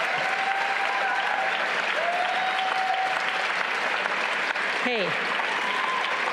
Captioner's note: audience cheers and applauds